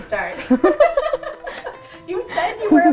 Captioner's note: laugh